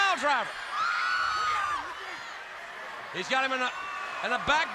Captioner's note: crowd chatter